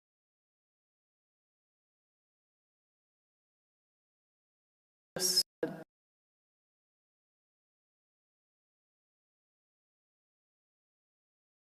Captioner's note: sound cuts out